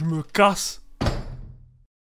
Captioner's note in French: Claquement de porte